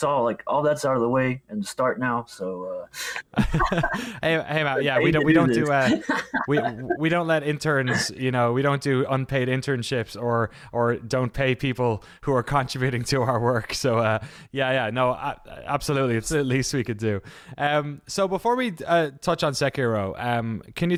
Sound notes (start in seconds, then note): 3.2 laugh